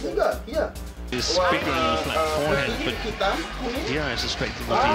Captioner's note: background: badminton commentator